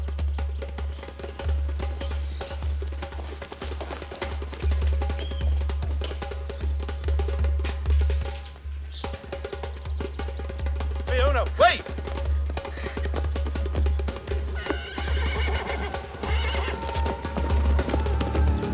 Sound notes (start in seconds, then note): 14.5 neighing